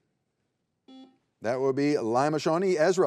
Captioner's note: buzzer beeps